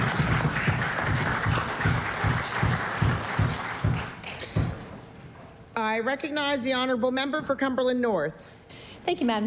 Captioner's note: applause